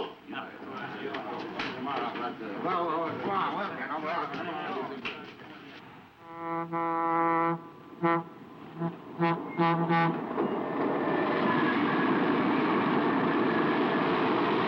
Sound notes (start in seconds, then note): 0.0 people murmuring; 6.2 car horn honking; 7.6 train whooshing